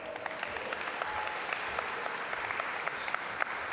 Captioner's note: audience applaud